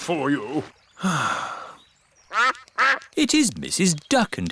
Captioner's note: sighs; quacking